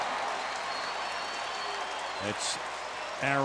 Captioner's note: cheering